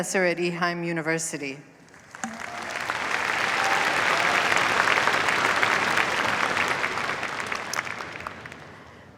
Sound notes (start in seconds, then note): 1.8 applause